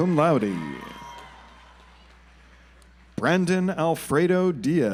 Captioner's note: audience applauds